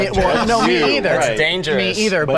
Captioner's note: laughs